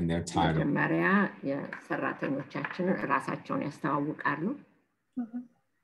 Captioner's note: speaking in foreign language